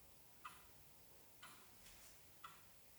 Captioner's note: clock ticking